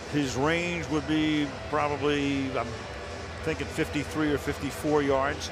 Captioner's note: cheering